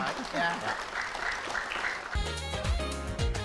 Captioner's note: clapping